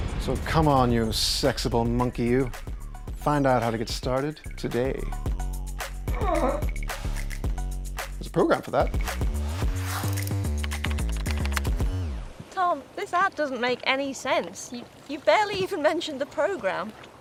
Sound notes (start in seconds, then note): 6.0 old man groaning; 10.2 keyboard clacking